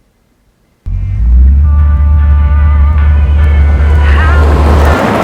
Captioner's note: radio playing